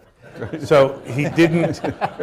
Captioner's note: laughter